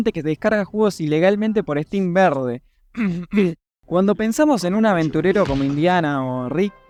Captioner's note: cough